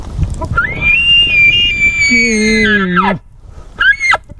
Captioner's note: elk bugle